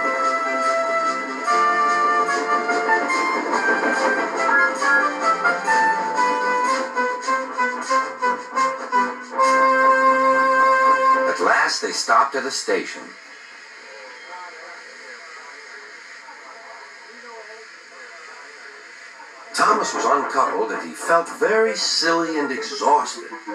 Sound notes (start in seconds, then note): 4.5 Thomas' Whistle Blows